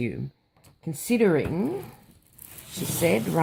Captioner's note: rustling sounds